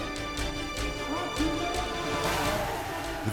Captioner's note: crowd chattering indistinctly